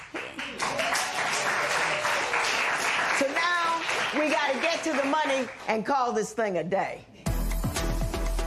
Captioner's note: applause